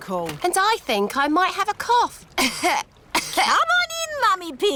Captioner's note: coughs